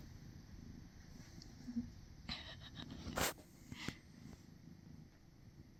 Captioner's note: purring